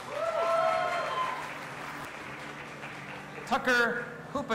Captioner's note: audience applauding and cheering